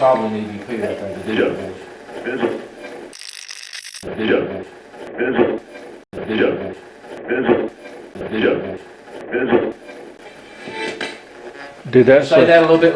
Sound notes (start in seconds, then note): 3.2 radio scratching; 6.3 radio voices; 10.4 radio channel changing